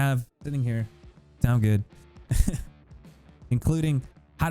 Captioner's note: laughs